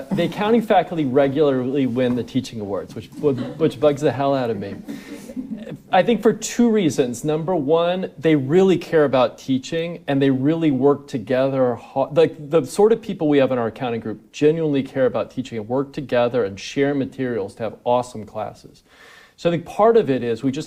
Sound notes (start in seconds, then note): 4.8 audience laughing